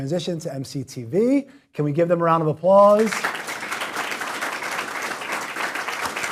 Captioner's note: applause